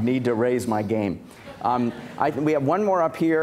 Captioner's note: laughter